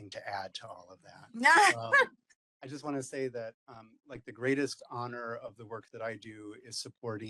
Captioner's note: laugh